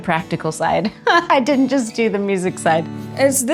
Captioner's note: laughs